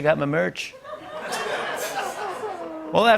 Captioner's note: laughter